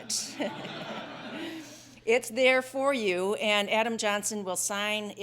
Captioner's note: laugh